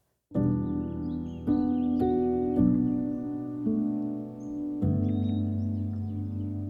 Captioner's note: soft serene music; birds chirping